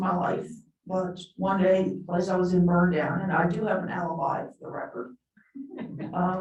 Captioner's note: chuckling